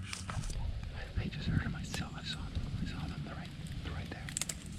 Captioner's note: faintly whispering